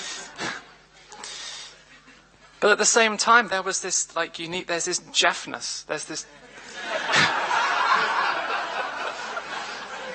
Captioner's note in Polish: śmiech